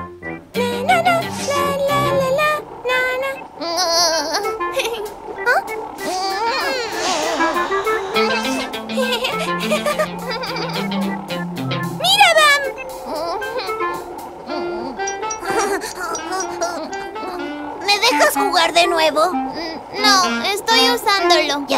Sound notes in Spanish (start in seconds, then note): 5.5 Risas; 12.9 Risas